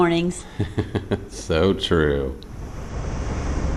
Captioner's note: laughing